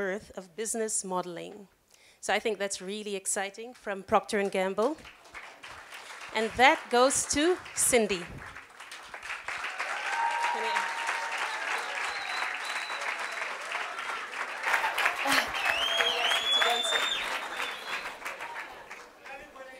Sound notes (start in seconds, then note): 13.6 applause